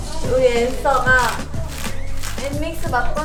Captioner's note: patting